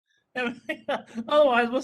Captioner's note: laughing